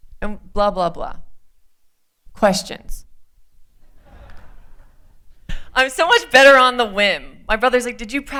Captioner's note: laughter